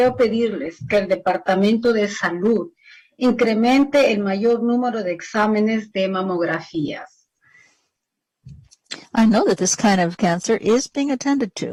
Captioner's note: speaking spanish